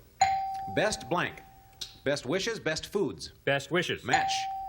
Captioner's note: ding